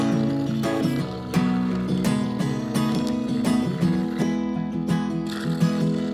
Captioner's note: sawing